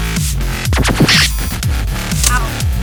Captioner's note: malfunction noise